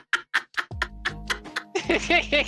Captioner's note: laughing